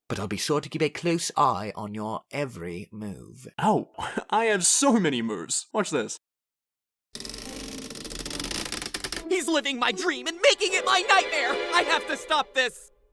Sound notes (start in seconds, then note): 7.2 creak